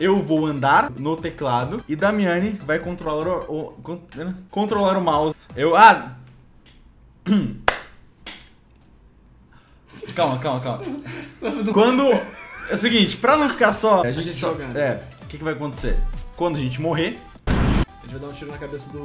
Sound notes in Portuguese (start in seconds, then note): 7.6 Bate palmas; 10.6 Risos